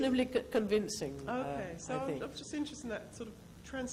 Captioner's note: voiceover